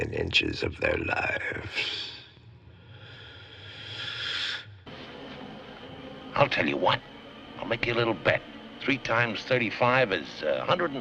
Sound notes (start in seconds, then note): 2.8 deep inhalation